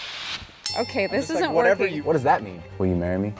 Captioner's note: bell chime